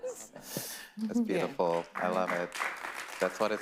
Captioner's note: panelists applauding